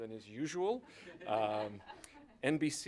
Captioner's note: laughter